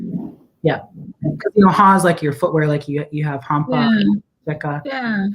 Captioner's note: speaking Dakota